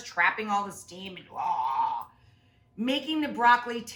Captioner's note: woman imitates boiling water sound